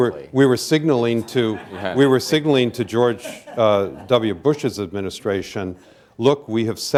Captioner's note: laughter